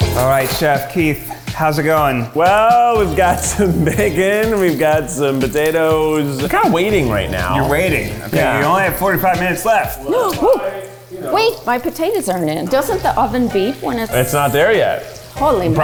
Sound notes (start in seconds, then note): 3.0 laughs; 10.3 gasps